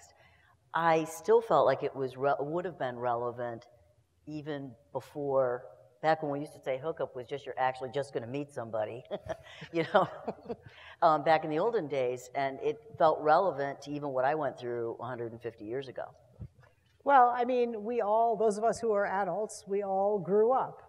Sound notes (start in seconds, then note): 10.1 laugh